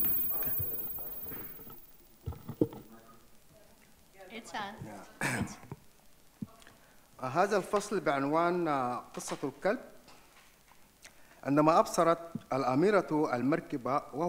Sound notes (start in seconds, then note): 0.0 speaks in foreign language; 5.2 clears throat; 7.5 speaks in foreign language